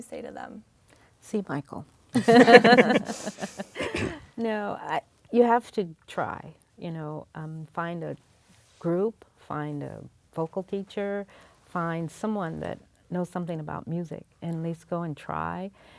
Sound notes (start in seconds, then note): 2.1 laughs